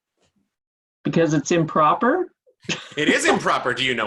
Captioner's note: laughing